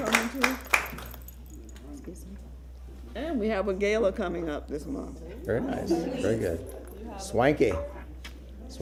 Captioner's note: applause